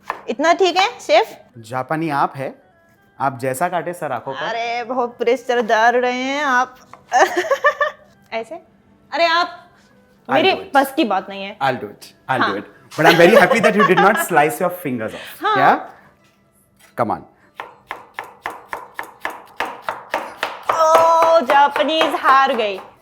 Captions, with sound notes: -Is this good enough, Chef? -You are the Japanese here. -The way you cut it will be good enough! -You are putting a lot of pressure! [Chuckles] Like this? You... -It's not my cup of Tea. -I'll do it! I'll do it! -[Laughter] -I'm happy that you did not slice your fingers off. Yes! Come on! Aww! The Japanese has lost!